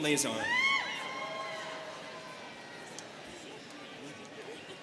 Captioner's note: students cheering